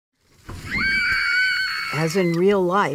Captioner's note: girls screaming